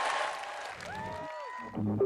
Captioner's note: cheering